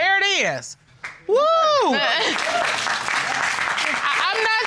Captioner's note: laughs